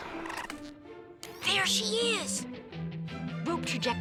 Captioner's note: whispering